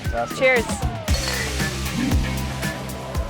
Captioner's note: glasses clinking; clapping hands